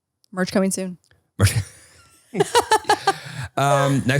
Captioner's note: laughing